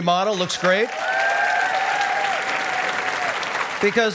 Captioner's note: cheering and applause